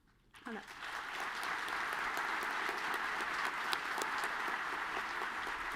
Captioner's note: audience clapping